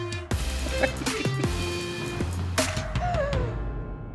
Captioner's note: laughing